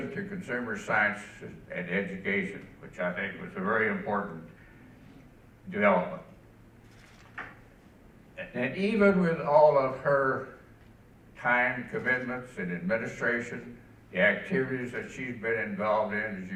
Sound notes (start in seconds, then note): none